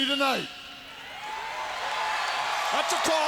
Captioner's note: crowd cheers